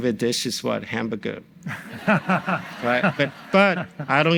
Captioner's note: audience laughs